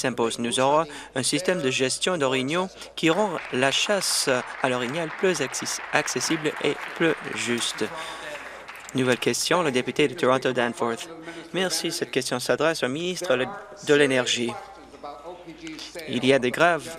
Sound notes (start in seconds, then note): 7.4 applause